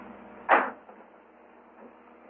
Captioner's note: door thuds